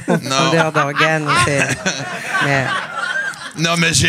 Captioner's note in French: rires